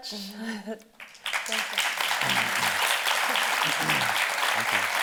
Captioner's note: audience applauding